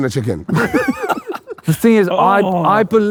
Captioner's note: group laughing